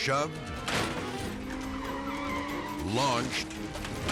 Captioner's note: Porsche skidding; car imploding